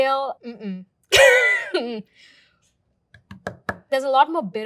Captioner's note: chuckling